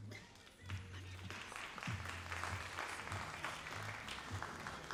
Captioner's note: all applauding